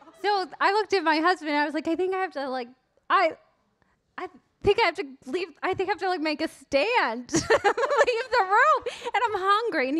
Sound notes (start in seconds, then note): 7.7 laughs